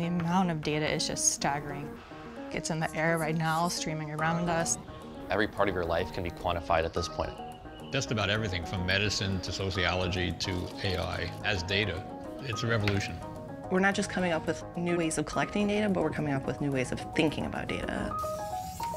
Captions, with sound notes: - [Voiceover] The amount of data is just staggering. It's in the air right now streaming around us. - [Voiceover] Every part of your life can be quantified at this point. - [Voiceover] Just about everything from medicine, to sociology, to AI has data. It's a revolution. - [Voiceover] We're not just coming up with new ways of collecting data, but we're coming up with new ways of thinking about data.